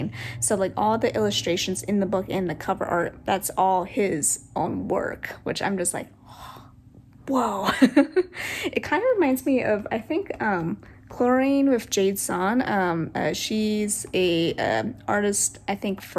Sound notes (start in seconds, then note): 8.3 gasp